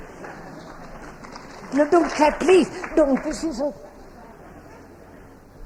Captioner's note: clapping